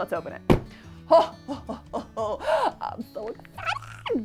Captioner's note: laughs